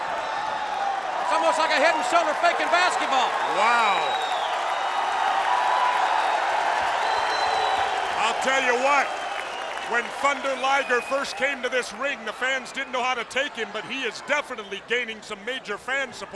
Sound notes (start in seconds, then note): 4.3 crowd cheering